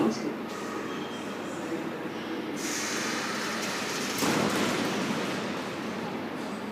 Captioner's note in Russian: закрытие дверей